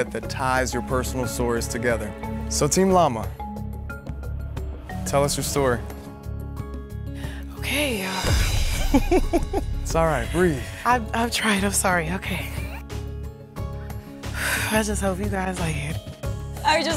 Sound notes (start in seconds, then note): 8.7 laughs